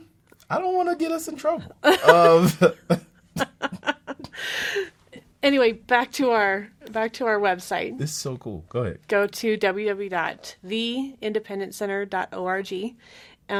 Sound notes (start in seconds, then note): 1.8 laughs